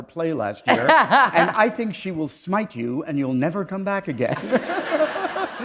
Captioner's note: chuckle; laughter